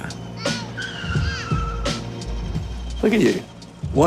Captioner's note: slow beat music; tyres squealing